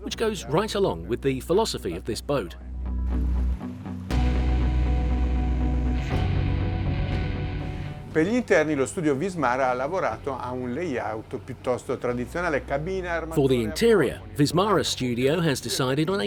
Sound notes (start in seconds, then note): 2.7 rock music; 8.6 speaking in foreign language